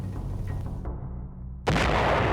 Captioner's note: gunfire